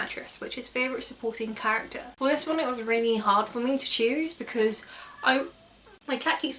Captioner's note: cat Meows